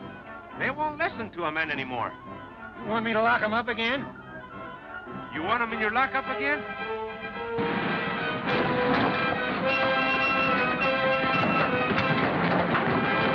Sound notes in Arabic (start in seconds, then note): 7.6 محركات السيارة تدور